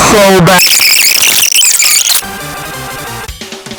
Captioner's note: sped up complaining